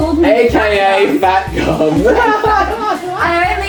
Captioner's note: laughs